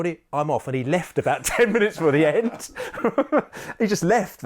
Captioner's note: laughs